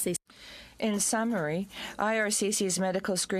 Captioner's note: speaking in french